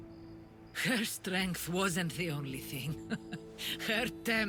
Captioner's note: laugh